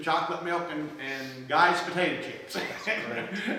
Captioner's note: laughs